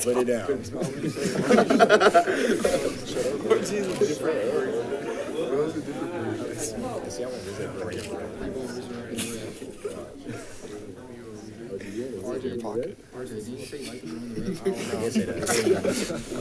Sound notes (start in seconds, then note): 0.5 group laughing; 3.4 crowd chatting